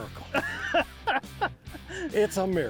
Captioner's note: laughs